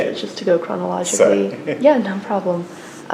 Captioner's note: laughs